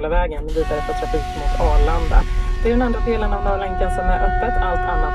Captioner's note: air raid siren